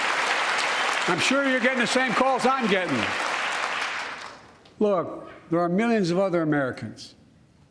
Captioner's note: applause